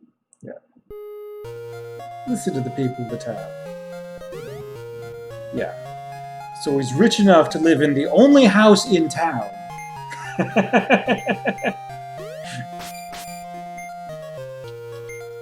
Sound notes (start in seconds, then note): 10.0 laughs